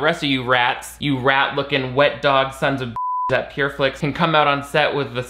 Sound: beep

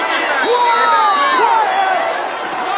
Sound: crowd yelling; whistle blows

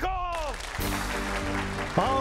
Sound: applause

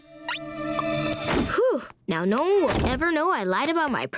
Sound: sighing

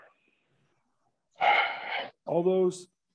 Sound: sighs

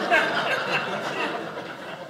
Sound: audience laughing

